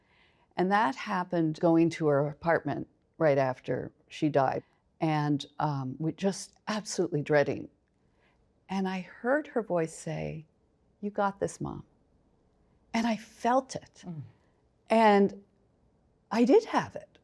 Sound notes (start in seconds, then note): none